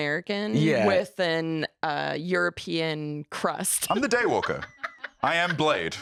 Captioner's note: laughs